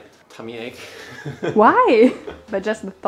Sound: laughs

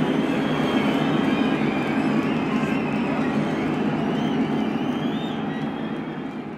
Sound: crowd cheers and applauds

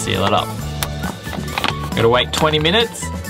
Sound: bag clicks

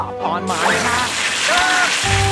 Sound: screaming

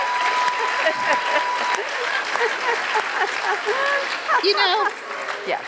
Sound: Chirlane claps with audience, laughing

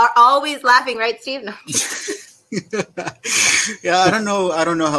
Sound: all laughing

